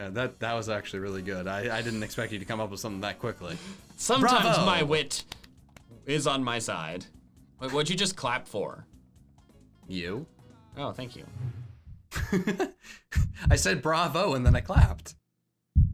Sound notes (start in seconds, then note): 5.2 clapping; 12.2 laughs